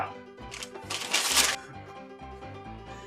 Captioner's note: paper bag rustling